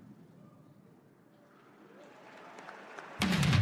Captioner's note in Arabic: تصفيق